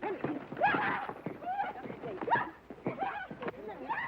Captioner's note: laughing; Lucky whooping